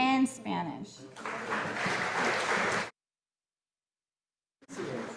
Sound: audience applauding

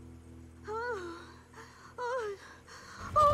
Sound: moans

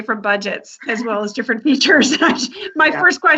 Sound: laughs

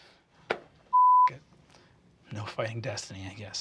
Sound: beeping

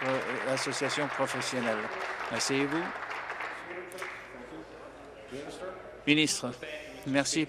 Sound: applause

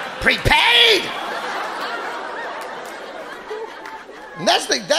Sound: audience laughing

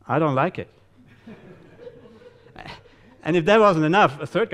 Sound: audience laughing

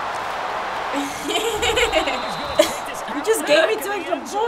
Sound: chuckles; laughs

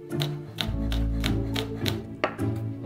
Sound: knife chopping

